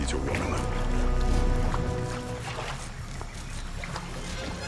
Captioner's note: water splashing